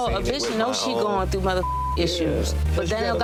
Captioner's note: beep